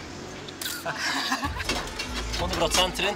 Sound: laughter

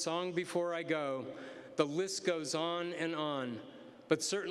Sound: none

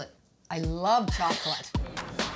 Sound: laughs; energetic rock music

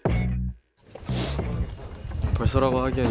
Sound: A man sniffing his nose

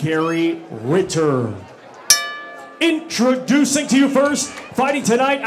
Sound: bell ring

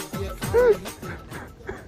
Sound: weeping

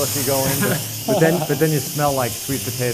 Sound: laughs

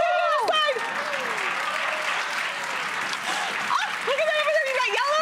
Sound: applause

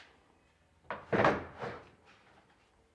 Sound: wooden rattling

